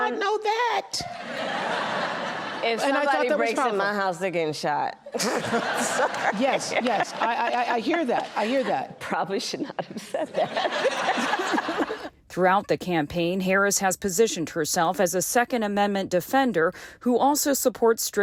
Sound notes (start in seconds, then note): 2.6 laughter; 5.1 laughter; 12.3 laughter